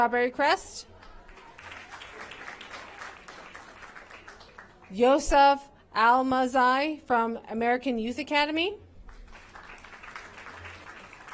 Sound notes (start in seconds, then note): 3.2 applause